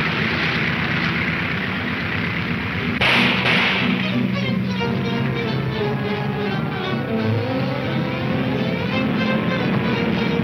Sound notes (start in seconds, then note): 1.2 gunshots banging